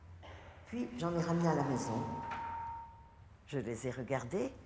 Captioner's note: speaking french